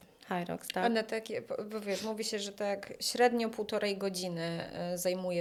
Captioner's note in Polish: parsknięcie